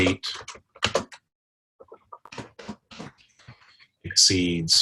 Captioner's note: typing Sounds